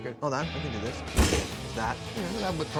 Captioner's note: table bangs